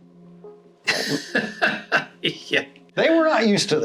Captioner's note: laughs